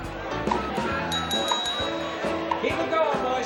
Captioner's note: bell ringing